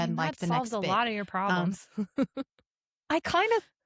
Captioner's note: laughs